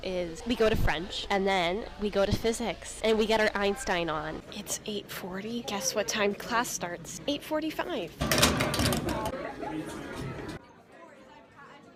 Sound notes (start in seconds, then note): 8.2 lock banging on locker; 9.0 indistinct chatter